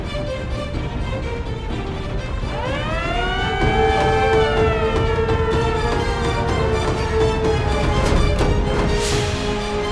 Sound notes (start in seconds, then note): 2.4 sirens sounding